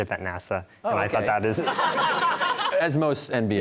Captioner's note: audience laughter